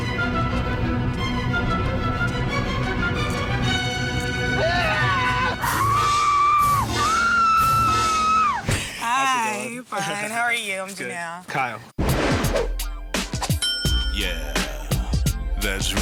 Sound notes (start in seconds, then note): 4.5 screaming; 6.2 screaming sound effects; 12.2 upbeat funk